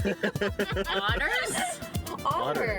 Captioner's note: laughing